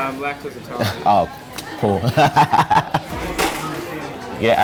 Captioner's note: laughs